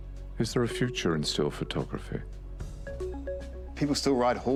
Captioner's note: voiceover